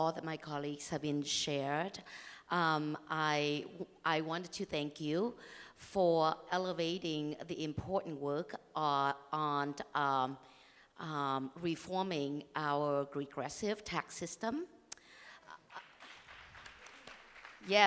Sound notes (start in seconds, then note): 12.3 applause; 17.6 cheers and applause